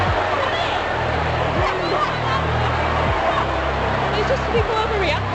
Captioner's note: panicked screaming